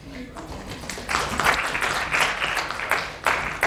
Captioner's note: applause